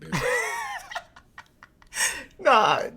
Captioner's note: laughing